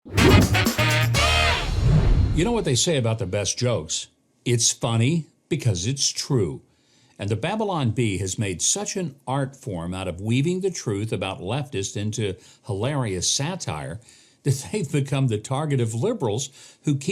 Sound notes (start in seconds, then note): 0.0 upbeat music; 1.6 air whooshes